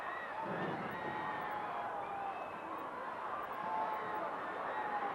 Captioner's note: audience cheering continues